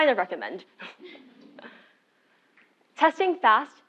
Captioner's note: laugh